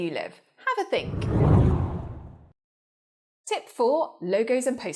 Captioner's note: air whooshes